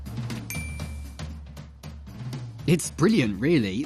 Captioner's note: ding